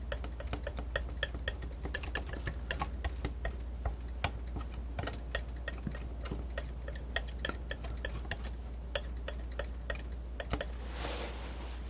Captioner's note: tapping